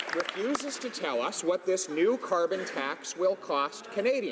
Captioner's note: some Applause